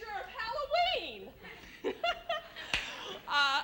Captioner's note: giggles